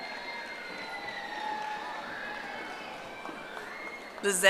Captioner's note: audience applauding